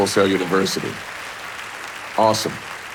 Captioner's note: audience applauding